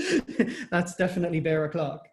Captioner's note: laughter